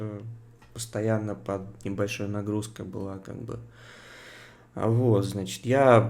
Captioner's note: sighs heavily